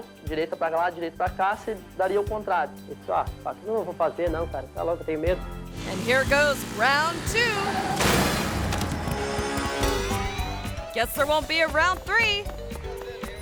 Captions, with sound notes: (biker speaking foreign language) And here goes round two. (bikes crashing) Guess there won't be a round three.